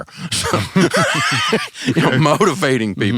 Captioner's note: both laughing